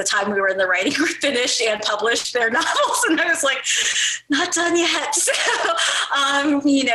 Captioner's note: laughs